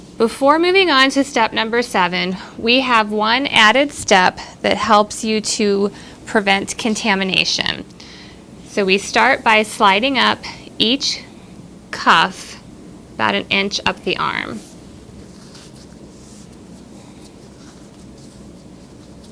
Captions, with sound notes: Before moving on to step number seven, we have one added step that helps you to prevent contamination. So we start by sliding up each cuff about an inch up the arm. (clothing rustles)